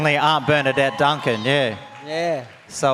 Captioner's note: audience cheers